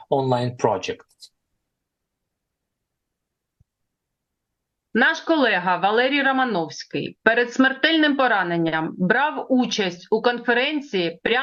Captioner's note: foreign language